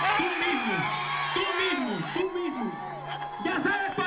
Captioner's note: crowd cheers